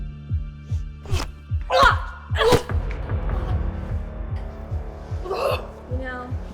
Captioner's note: smacking; grunting